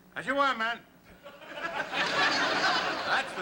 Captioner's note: laughter